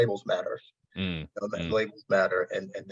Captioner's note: audio distortion